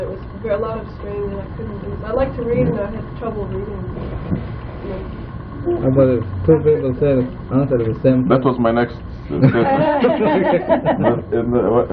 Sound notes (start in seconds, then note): 9.3 laughter